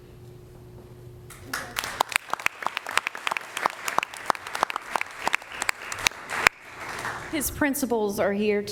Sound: applause

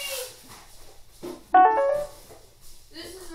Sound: ringtone piano sound

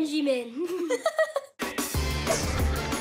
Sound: chuckles; laughs; upbeat music playing

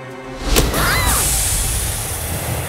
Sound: screaming

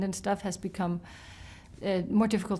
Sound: inhales

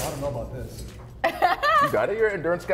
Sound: laugh

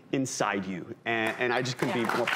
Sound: audience applause

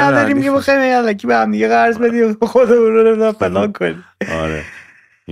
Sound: laughter

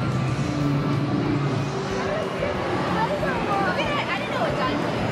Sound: dinosaur roars

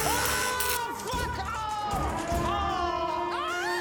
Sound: electric sound

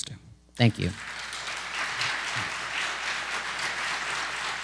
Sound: applause

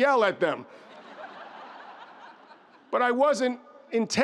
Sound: audience laughs

